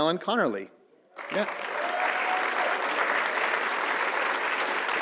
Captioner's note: audience applauding